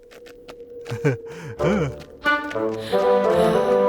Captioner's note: goofy laughing